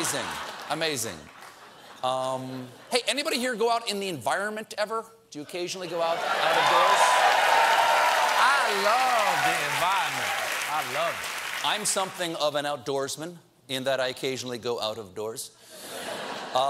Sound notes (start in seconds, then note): 6.2 cheers and applause